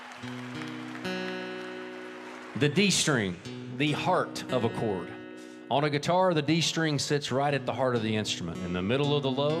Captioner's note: applause